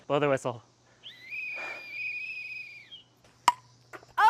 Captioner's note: whistle